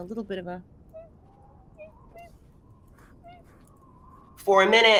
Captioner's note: bird squills faintly